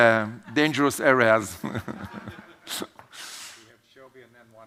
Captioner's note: laughs